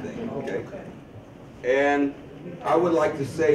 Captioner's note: audience chuckles